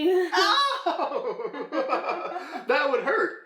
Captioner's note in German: lacht